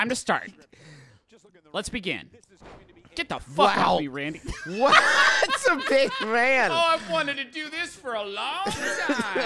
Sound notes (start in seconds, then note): 2.6 slam